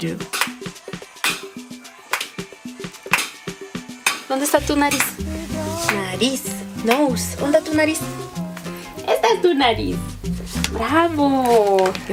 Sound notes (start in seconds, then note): 0.2 stick clacking; 0.2 upbeat music; 4.3 speaking in Spanish